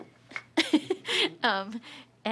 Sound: laughing

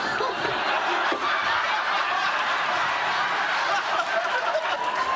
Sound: laughs

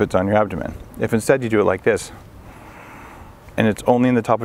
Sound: inhaling

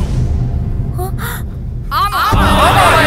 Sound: gasps

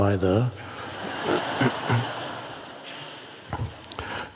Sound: crowd laughs

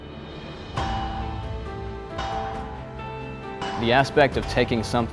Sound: metal clanging

